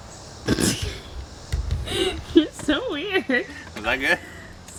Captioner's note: laughing